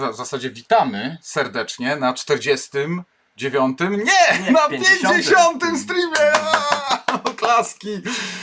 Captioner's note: applause